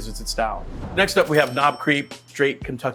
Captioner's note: cash register dings